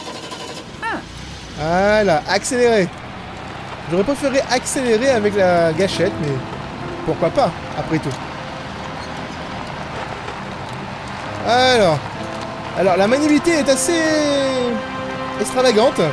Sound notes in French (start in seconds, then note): 0.0 Moteur qui démarre